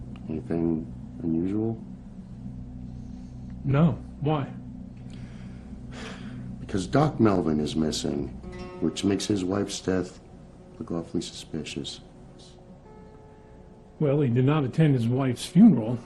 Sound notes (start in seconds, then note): 5.1 sighs